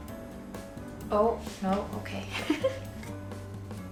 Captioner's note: upbeat jazz music; chuckles